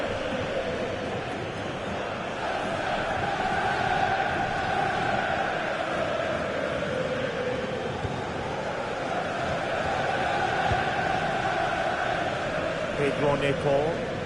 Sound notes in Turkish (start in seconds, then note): 5.0 coşkulu tezahürat